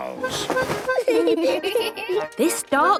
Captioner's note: giggling